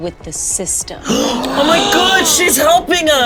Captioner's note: players gasping